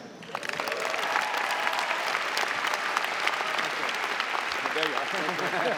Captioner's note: audience cheering and applauding